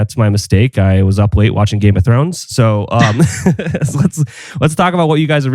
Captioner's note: laughs